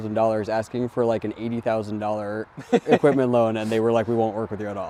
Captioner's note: laughing